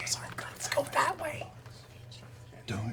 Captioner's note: whispering